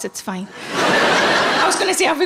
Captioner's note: audience laughing